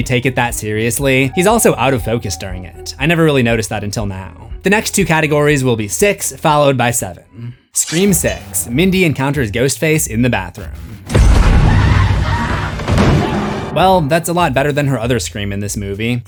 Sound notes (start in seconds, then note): 11.2 screams